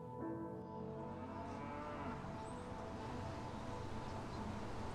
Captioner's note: cows mooing